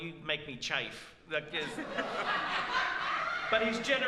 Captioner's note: laughs